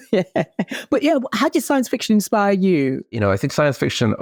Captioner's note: laughs